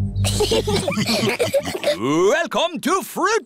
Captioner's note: laughter